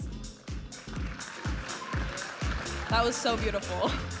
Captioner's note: audience applauding and cheering